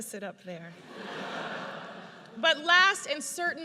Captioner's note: audience laughs